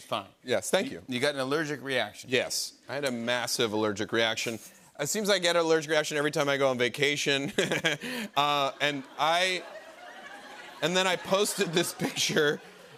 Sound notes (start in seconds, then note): 8.0 laughs